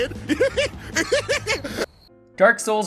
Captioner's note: crickets